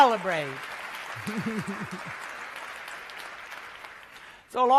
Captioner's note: applause